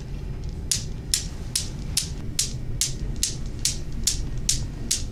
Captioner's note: objects clattering